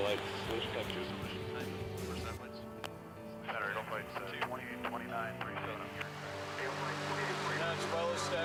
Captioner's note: background radio noise